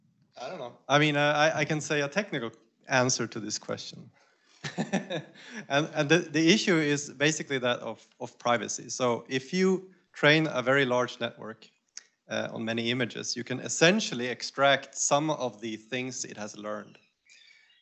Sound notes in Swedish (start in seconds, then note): 4.6 skratt